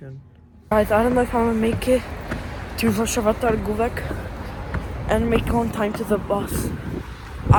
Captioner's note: walking up stairs